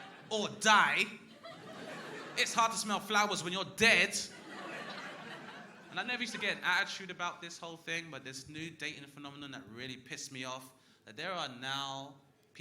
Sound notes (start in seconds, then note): 0.0 crowd laughing; 4.0 crowd laughing